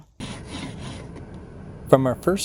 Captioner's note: tool scraping